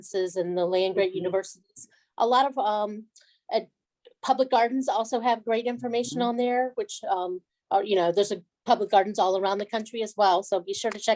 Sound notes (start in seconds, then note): none